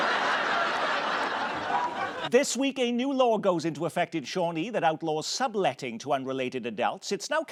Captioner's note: laughter